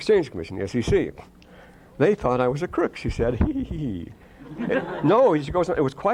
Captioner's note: laughter